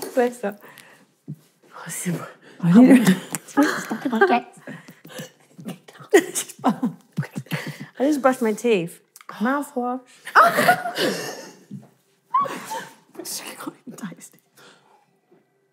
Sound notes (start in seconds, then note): 2.7 chatting indistinctly; 10.3 laughing